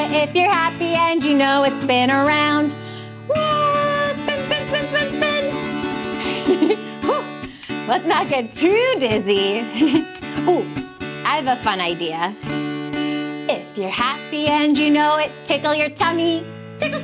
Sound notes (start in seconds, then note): 6.1 giggling